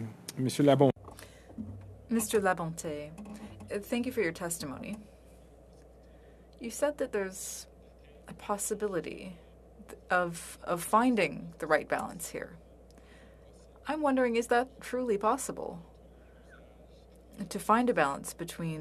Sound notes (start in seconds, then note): 5.0 speaking French